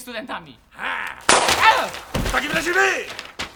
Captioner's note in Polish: krzyk; strzał